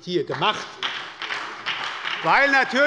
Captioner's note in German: Beifall bei der SPD